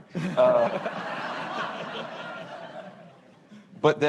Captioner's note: laughter